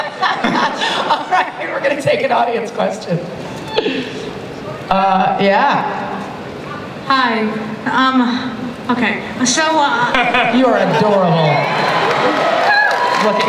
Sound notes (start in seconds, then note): 0.0 laughter; 7.3 voiceover; 10.1 laughter; 10.8 audience cheering